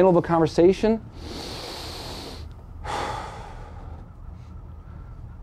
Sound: deep breathing

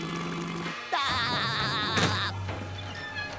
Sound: laughing

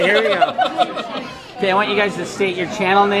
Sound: laughs

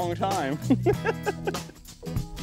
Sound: laughter

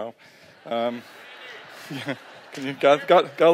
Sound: laughter

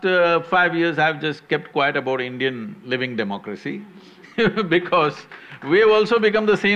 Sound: laughs/Few applaud

